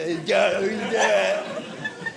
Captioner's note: audience laughing